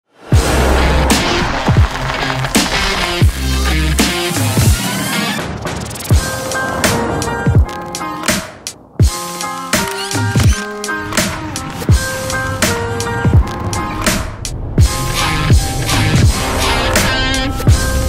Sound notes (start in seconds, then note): 0.9 upbeat music; 9.8 camera clicking; 12.7 upbeat music